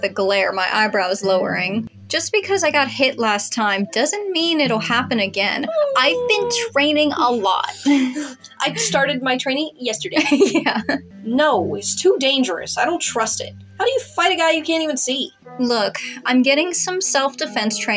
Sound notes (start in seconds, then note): 5.8 skeptical Whine; 8.6 chuckle; 10.5 laugh